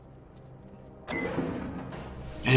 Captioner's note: door creak